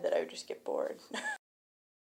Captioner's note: chuckles